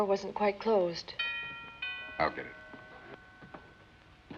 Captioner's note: door bell